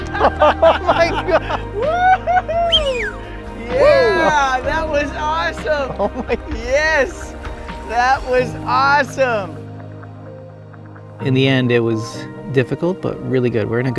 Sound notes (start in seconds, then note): 0.2 all laughing and cheering; 2.5 whistles; 9.5 reflective music